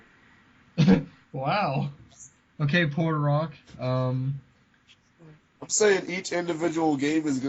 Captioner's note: laughing